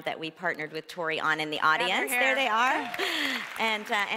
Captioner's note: applause